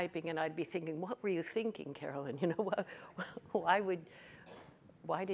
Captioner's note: chuckles